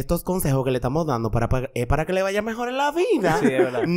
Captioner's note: laughs